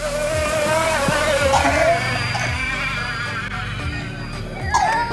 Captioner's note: engine revving